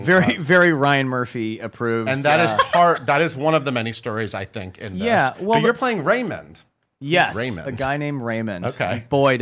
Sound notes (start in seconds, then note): 2.3 laughs